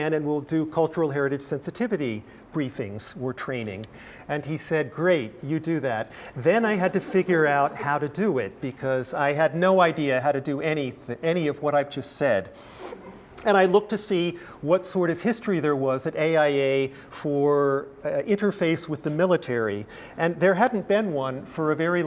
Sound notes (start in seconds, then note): 12.9 laugh